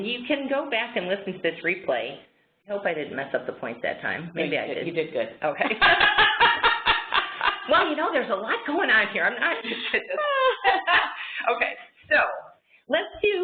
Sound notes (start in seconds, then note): 5.6 laughter